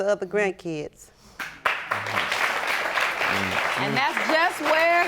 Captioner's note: audience applauding